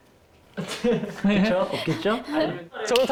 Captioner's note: hesitant